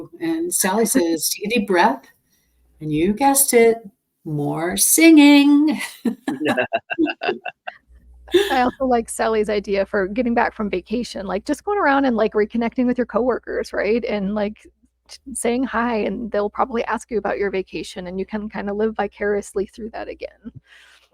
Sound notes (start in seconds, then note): 6.0 laughs